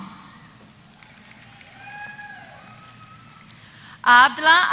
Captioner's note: applause